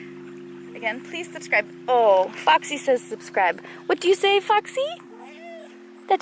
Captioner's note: meow